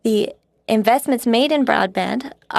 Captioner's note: speaking French